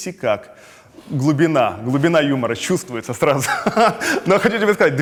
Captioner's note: laughs